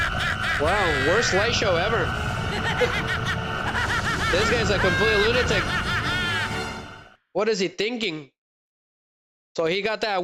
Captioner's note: laughter